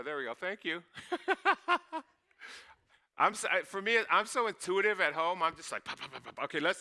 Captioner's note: laughing